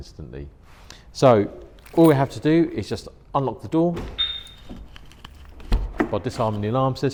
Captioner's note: beep